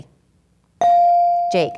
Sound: ding

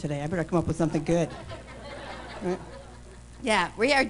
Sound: laughter

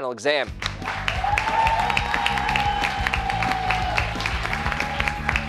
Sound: cheers and applause

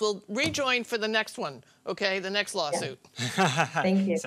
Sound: laughter

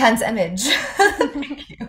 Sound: laugh

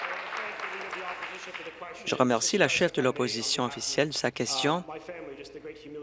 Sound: applause

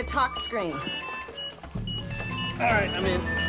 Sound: beeping

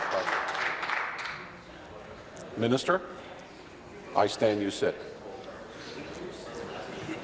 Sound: applause

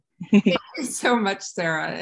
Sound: chuckling

